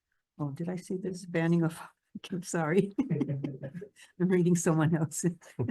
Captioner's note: chuckles; chuckles